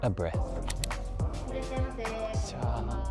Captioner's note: scene clicks; shopkeeper speaks Japanese; speaks Japanese